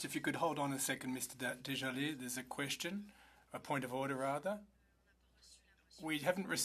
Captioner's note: speaking French